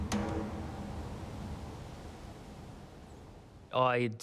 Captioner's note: wind gushing; dramatic music